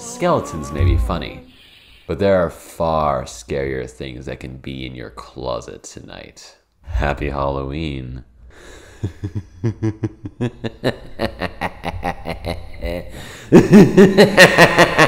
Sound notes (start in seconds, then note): 9.0 maniacal Laughter